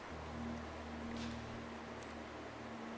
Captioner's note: sound like a branch or stick breaking